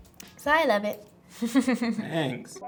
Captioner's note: Amandla chuckles